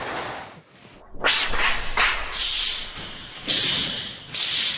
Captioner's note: weapons whooshing